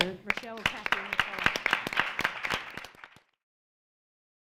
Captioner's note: applauding